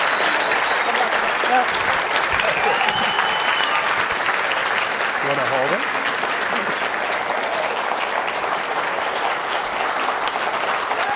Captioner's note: cheering and Applause